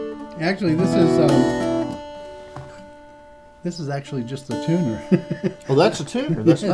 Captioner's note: laughter